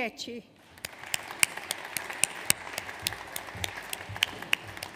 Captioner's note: audience applauds